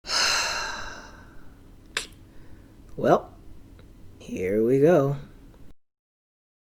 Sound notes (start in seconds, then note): 0.0 deep sigh